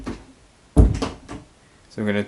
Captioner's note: door shuts